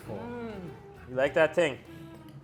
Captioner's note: moaning